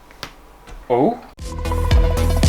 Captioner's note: rips; intro Music